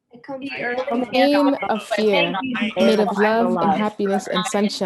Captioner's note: everyone speaking as one